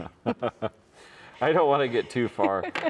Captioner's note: chuckle